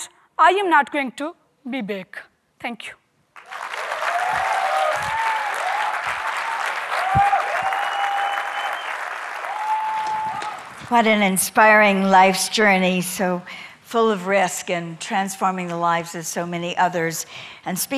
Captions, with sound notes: and I am not going to be back. (applause) - What an inspiring life's journey so full of risk and transforming the lives of so many others.